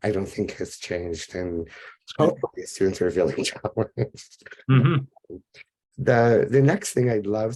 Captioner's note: laughs